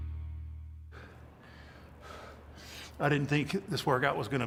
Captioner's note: Mark panting